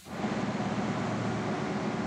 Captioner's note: machine noise